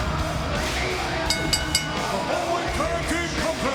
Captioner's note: bell rings